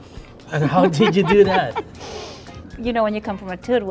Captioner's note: laughing